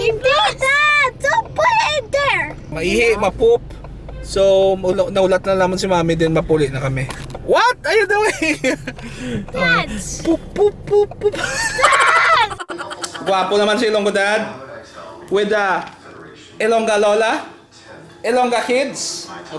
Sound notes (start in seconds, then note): 9.8 exasperated; 11.4 laughs